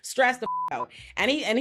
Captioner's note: beep